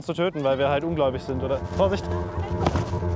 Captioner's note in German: Dumpfer Laut